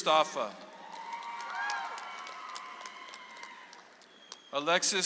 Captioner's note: audience applauds